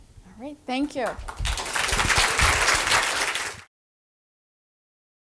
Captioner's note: applause